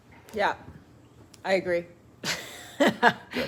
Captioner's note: chuckles